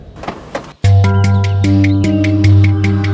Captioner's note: Car's door opening